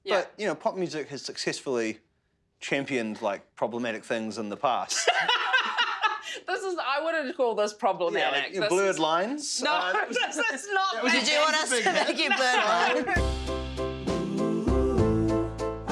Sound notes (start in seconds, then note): 5.0 laughs loudly; 11.1 laughs